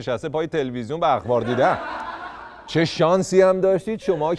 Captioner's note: laughter